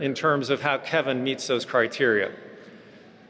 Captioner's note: none